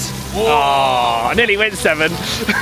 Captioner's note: men exclaim